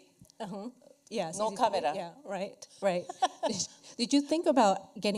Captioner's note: laughs